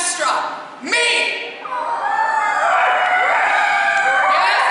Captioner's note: CHORUS howls and cries out offstage